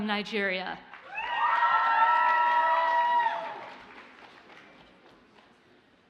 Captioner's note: audience cheers and applauds